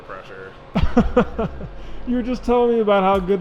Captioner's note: laughing